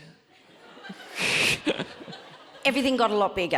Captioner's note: audience laughs